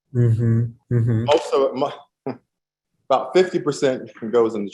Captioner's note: laughs